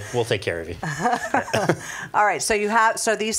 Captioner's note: both laughing